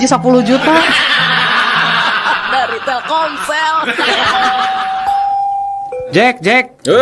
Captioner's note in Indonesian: tertawa